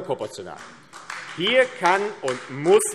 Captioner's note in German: Beifall AfD